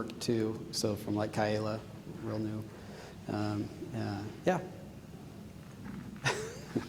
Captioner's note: chuckling